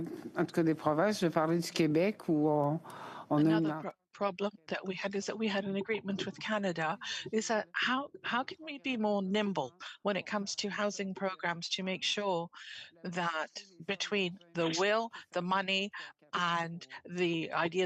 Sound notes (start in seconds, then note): 6.3 speaking French